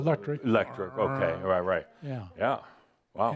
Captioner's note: imitating the motor sound